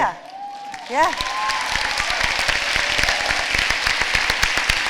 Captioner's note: applause